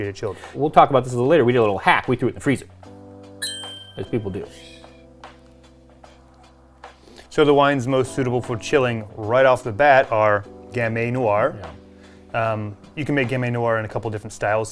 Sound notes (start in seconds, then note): 3.4 clink; 4.3 shushing